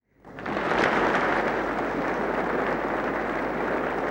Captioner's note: audience applauds